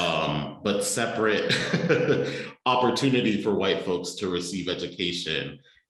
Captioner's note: laughter